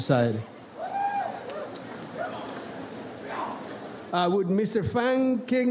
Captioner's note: audience cheers